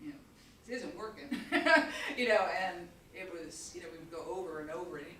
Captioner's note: chuckles